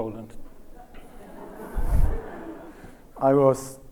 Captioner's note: audience laughs